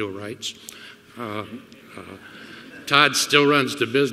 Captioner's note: laughter